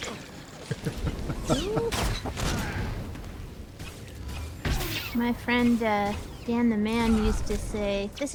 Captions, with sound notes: [laughter] My friend Dan the Man used to say, "This